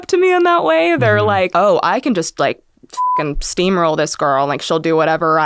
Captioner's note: beep